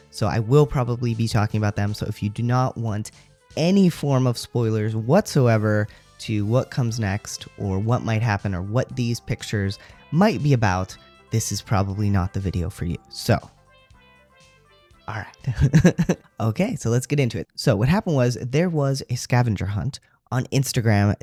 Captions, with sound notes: so I will probably be talking about them. So if you do not want any form of spoilers whatsoever to what comes next or what might happen or what these pictures might be about, this is probably not the video for you. So. All right. [laugh] Okay, so let's get into it. So what happened was there was a scavenger hunt on Instagram